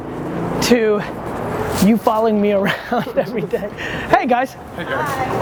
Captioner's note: laughs